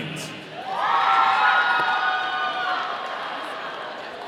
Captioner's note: audience cheering